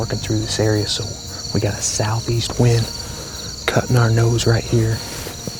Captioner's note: whispering